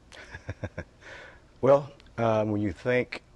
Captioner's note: laughter